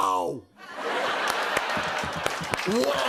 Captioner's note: laughter; applause